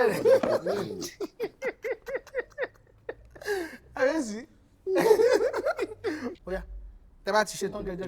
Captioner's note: everyone laughs